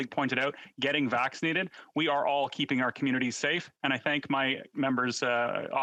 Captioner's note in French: voix de l'interprète